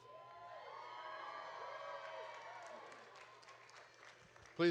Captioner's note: audience cheering